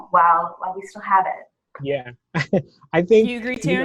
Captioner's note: chuckles